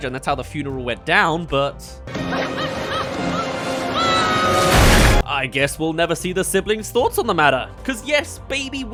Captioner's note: ahh! *Splash